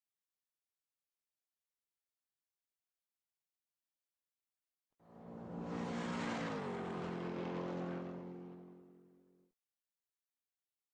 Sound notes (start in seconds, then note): 0.2 silence; 5.1 car engine racing